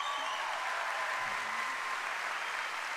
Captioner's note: cheering and applause